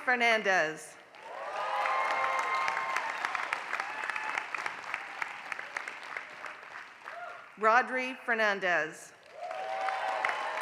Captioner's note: applause; applause